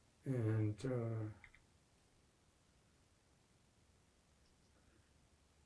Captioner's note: pauses 6 seconds